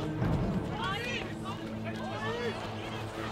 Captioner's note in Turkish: Hep bir ağızdan